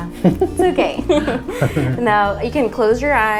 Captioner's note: laughs